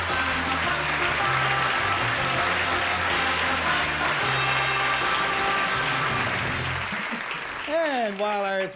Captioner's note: applause